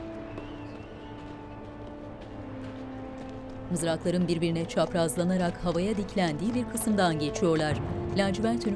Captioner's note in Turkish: Rüzgâr sesi